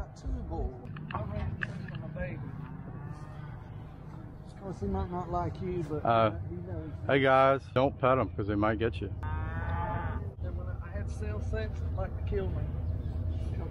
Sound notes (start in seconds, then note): 9.2 cow mooing